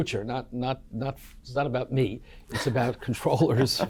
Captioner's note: laughing